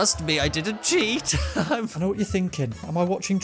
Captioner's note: definitely not an awkward laugh